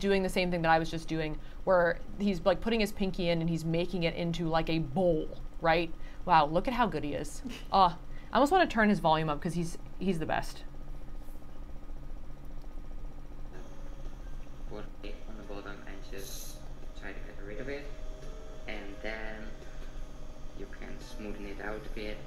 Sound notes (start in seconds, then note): 11.4 machine rattles